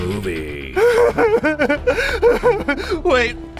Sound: sobs

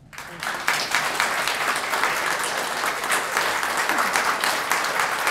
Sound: applause

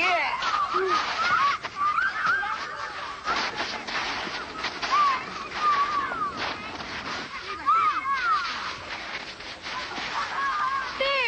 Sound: children Playing

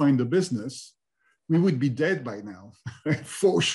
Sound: laughs

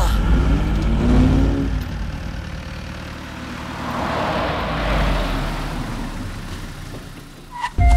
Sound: car Sound

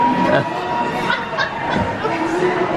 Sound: laughing

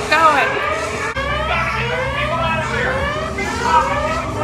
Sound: alarm blaring

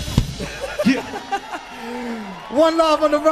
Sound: laughing

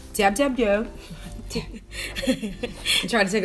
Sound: laughter

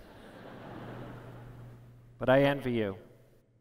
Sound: laughter

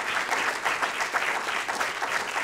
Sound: applause

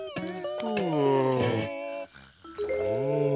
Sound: groaning

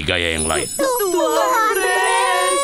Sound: bells ring

